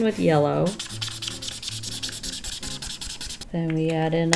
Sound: marker scribbling

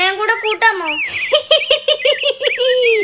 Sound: monkeys laugh

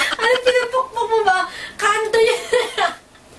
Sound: laugh

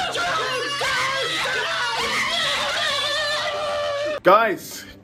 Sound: shouting

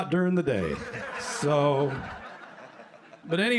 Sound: laughter

